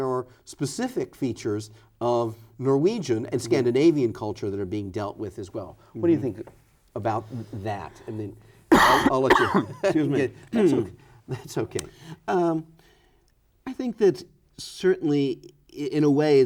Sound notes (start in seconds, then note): 8.7 coughing